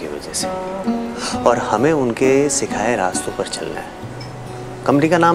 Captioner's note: Inhales